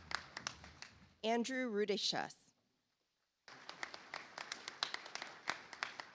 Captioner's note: audience applauds